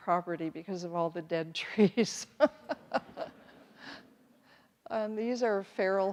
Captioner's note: everyone laughs